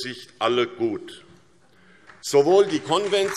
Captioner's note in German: Beifall SPD